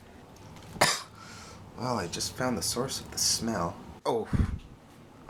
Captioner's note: coughs